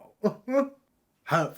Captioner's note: chuckles